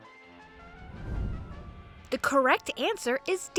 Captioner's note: transition whooshes